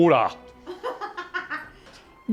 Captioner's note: laughing